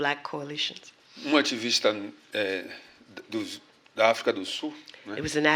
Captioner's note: speaking portuguese